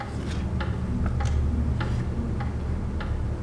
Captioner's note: clock ticking